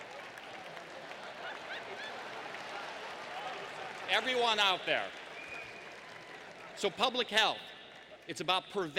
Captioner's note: laughter